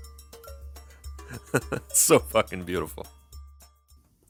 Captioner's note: chuckles